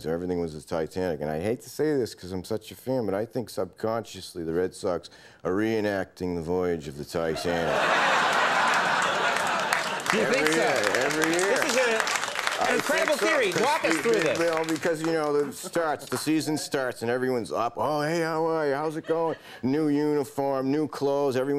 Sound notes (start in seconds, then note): 7.4 audience laughing; 11.9 audience applauding